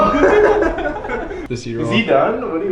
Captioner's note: chuckles